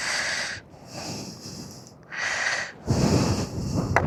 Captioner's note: snoring; sigh